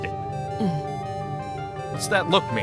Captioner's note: grunts